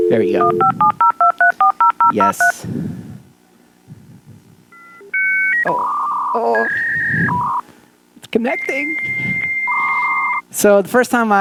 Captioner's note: dial up noise